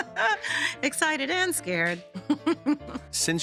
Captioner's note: laughing; laughing